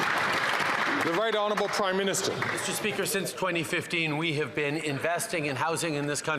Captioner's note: some Applause